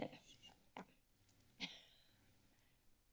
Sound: coughs

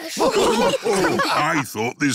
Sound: snorts; all laughing

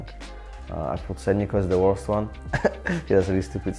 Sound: laughs

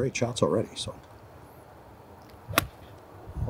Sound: loud thump

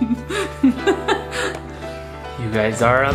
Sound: laughs

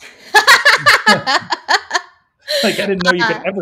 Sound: both laughing

